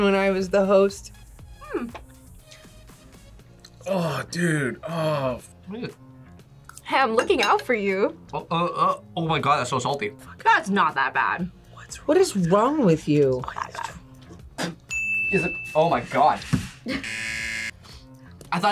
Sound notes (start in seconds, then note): 12.0 whispers; 14.2 spits; 16.9 buzzer rings